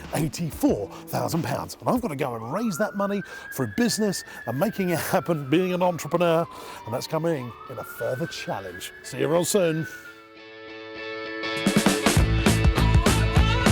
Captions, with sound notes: 84,000 pounds and I've gotta go and raise that money for a business. (siren blaring) I'm making it happen, being an entrepreneur and that's coming in a further challenge. See you real soon. (upbeat rock music)